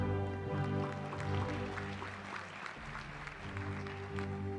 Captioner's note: applause